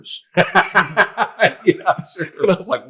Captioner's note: all laughing